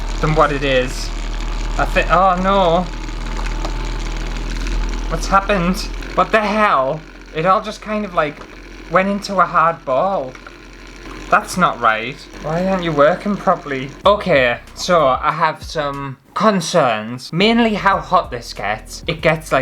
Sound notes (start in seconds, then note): 2.5 loud Motor Sounds